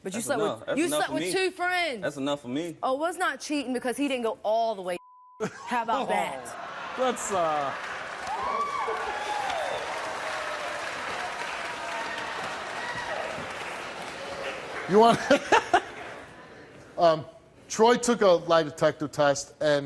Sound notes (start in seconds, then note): 7.5 applause